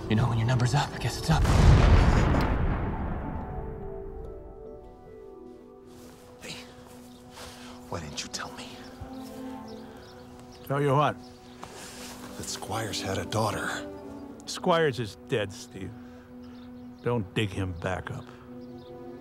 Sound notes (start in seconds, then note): 1.3 bomb explodes; 19.0 slow somber music